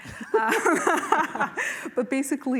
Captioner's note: laughter